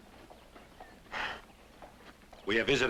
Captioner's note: footsteps approaching